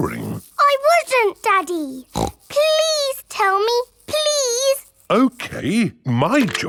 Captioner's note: snorts